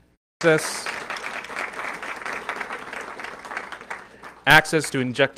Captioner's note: audience clapping